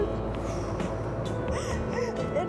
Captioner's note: sobbing